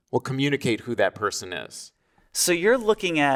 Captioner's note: none